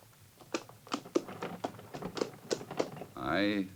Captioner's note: hooves clopping